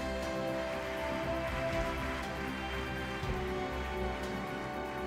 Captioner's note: audience applauding